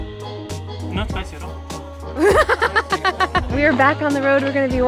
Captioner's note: laughs